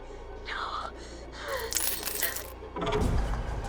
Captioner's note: coins clinking; ominous music